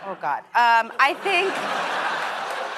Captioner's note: laughter